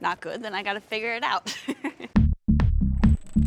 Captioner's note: laughs; funky music plays